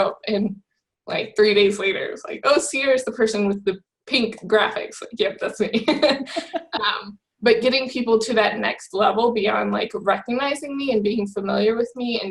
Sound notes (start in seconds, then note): 5.8 both laugh